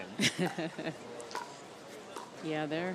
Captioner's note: laughs